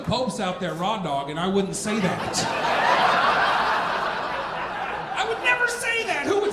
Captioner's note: audience laughing